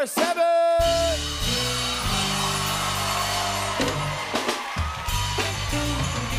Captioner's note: cheers and applause